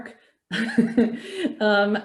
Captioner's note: laughing